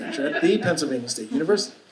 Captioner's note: audience laughing